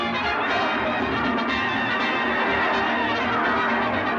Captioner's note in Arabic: تستمر الموسيقى المبهجة; صراخ الحشد